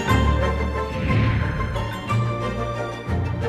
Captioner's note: air whooshing; whimsical mysterious music